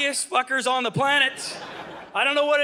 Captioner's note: audience laughing